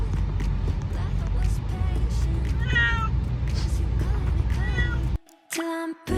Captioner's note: cats meowing over music